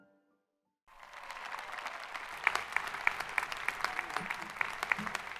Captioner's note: crowd applauding